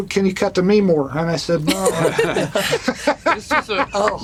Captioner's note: laughter